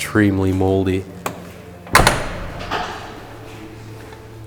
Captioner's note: car door opening and closing